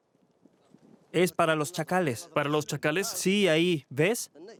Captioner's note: Arabic spoken audio